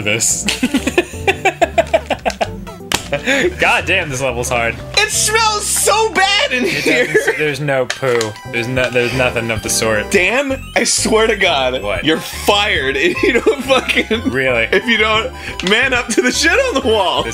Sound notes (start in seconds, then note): 0.4 laughing; 6.6 laughing; 13.0 laughing